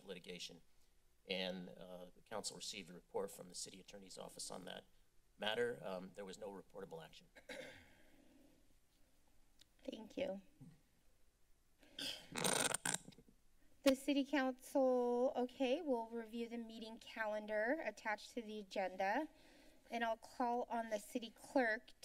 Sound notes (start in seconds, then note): 7.3 clear Throats; 8.3 silence; 12.0 clears Throat; 12.6 glitching Sound